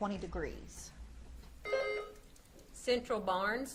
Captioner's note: buzzer beeps